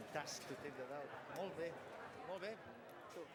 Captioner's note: non-english speech